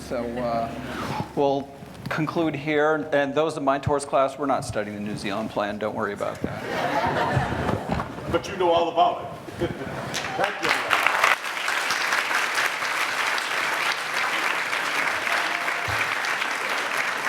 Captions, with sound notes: so we'll conclude here. And those in my torts class, we're not studying the New Zealand plan. Don't worry about that. (laughing) - But you know all about it. (laughing) Thank you. (clapping)